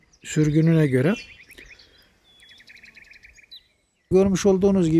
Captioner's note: bird sounds